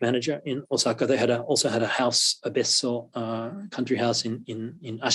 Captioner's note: japanese